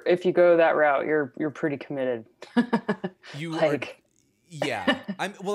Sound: laughs

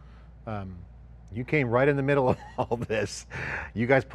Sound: chuckles

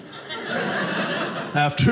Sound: audience laughing

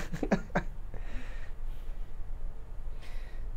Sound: laughs

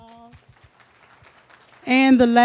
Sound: applause

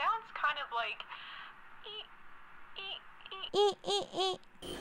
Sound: badly mimicing squeaking noises

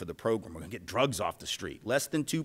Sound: low serious voice

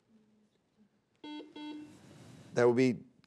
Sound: buzzer beeping

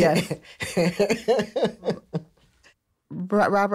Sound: laughs

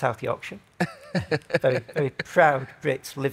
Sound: laughs

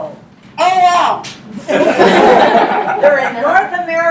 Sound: laughter

